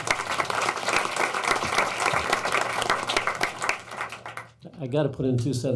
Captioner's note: applauding